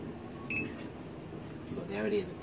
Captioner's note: beeps